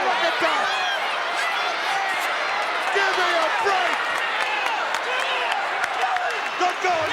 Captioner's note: applause